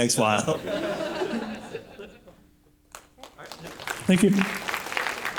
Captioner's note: laughter; applause